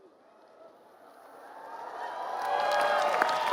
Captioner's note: applause